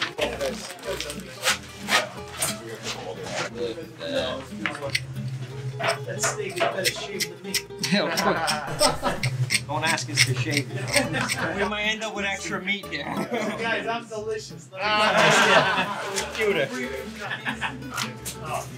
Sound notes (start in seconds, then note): 0.2 background chatter; 1.8 sawing; 3.1 background chatter; 7.8 chuckling; 15.5 laughing